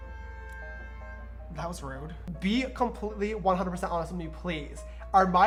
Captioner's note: car honking in the background